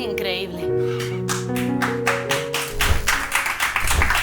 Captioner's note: applause